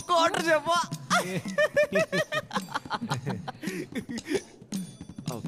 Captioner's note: Laughs